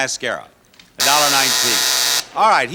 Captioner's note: buzzer rings